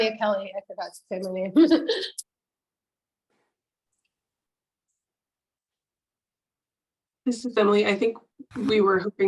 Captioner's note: laughing